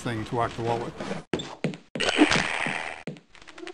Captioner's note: wood breaking